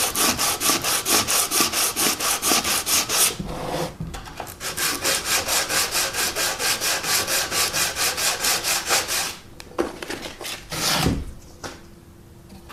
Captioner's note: sanding noises